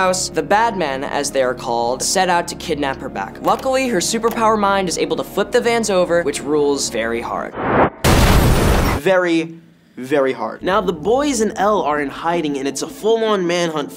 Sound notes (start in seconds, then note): 7.4 whooshing sound; 8.0 glass shattering